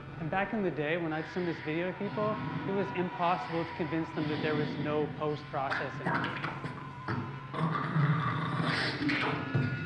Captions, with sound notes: And back in the day when I'd send this video to people, it was impossible to convince them that there was no post-processing. [BEATBOXING]